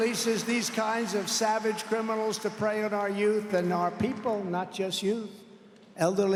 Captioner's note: applause